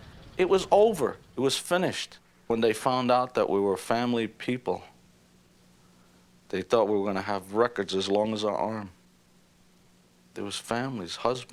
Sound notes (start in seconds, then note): none